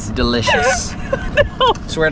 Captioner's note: laughing